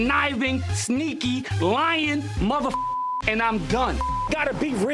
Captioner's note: beep